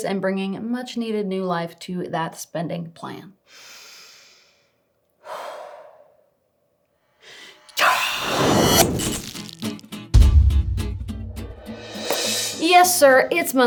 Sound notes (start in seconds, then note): 3.7 inhales; 5.4 exhales; 7.2 strong exhale; 9.3 bright music